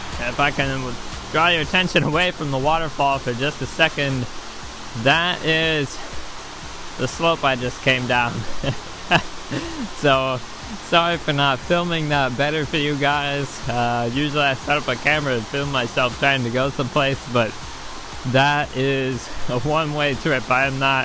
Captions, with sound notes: If I can draw your attention away from the waterfall for just a second, that is the slope I just came down. [laughing] So sorry for not filming that better for you guys, usually I set up a camera to film myself trying to go someplace, but that is a one-way trip. I am not,